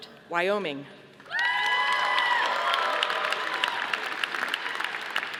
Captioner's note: audience applauding